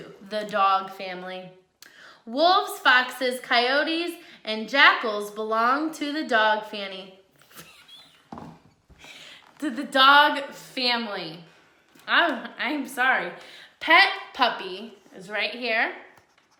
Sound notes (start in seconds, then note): 8.4 laughs